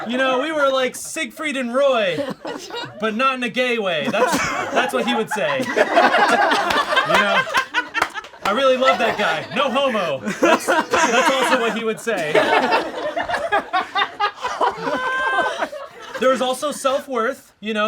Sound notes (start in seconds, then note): 6.0 all laugh; 12.6 all laugh